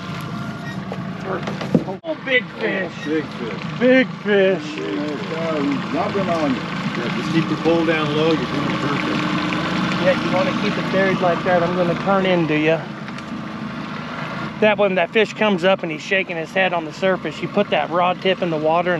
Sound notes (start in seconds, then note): 0.0 fish splashing; 3.1 boat engine idling